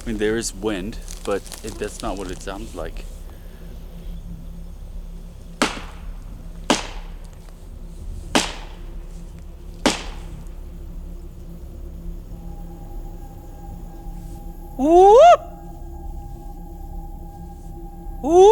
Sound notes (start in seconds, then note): 5.5 wood banging; 7.7 eerie music; 15.2 howls